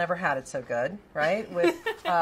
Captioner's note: laughs